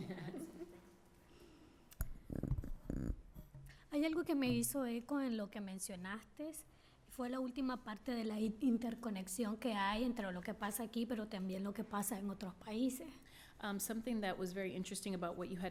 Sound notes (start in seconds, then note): 3.2 speaking spanish